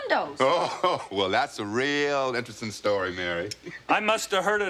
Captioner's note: laughs